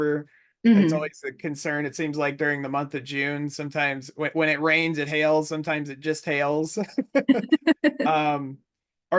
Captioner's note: both laugh